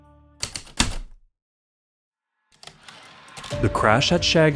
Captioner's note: heavy typewriter keystrokes, return slide